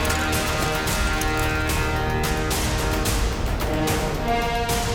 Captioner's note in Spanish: Ruidos al enristrar